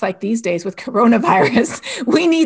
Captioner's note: laughs